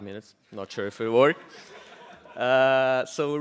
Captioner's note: audience laughs